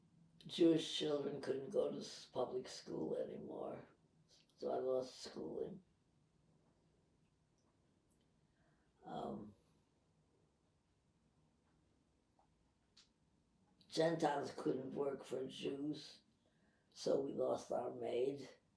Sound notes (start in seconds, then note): 5.9 pauses 8 seconds